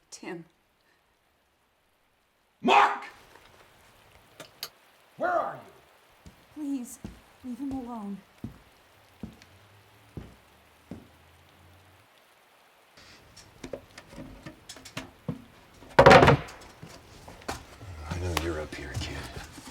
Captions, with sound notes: Tim. - Mark! Where are you? - Please leave him alone. (footsteps thudding) (hatch clattering) - I know you're up here, kid.